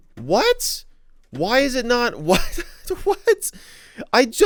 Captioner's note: laughs